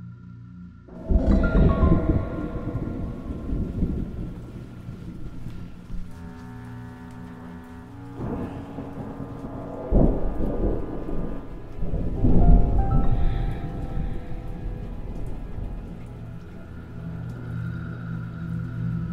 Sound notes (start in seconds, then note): 1.8 tense music; 1.8 thunder rumbling; 16.4 spooky music